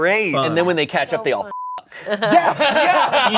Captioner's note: beep